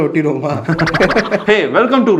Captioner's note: laughs